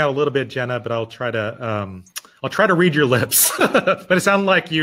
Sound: laughing

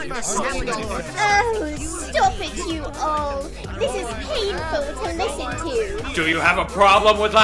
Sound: arguing

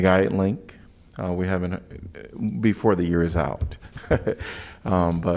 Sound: laughter

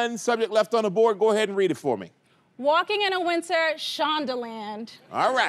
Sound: none

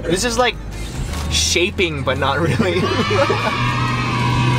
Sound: laughs

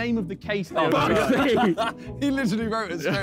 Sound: men laughing

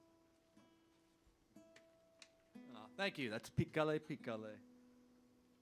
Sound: hablando en Inglés

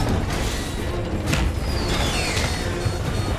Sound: thuds; machine beeping

